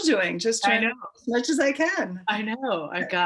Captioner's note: laughs